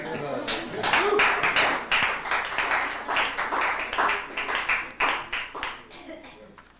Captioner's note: applause